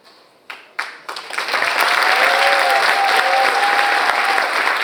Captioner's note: audience applauds